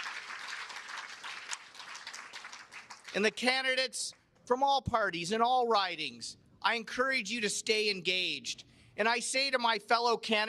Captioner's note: cheers and applause